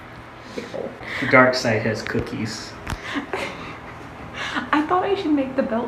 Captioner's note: laughs